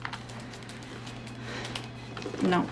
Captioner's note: sighs